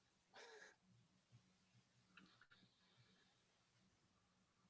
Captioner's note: laughs